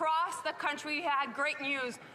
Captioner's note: speaking French